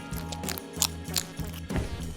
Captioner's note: squirrel squeaks; squirrel chews